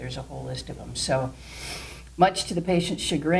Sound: sniff

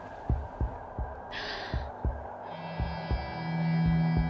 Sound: gasp

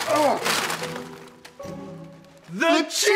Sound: groans

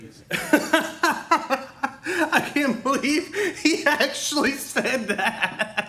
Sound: laughing

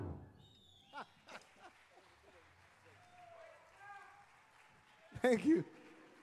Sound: laughing; audience applauding

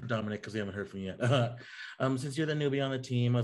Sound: laughs

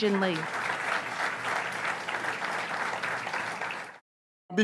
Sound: audience applauds

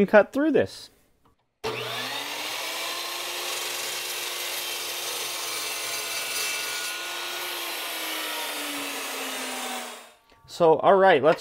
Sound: saw Blades

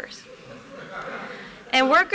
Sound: laughter

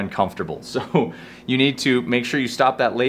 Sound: chuckles

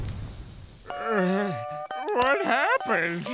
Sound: groaning

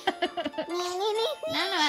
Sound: laughing

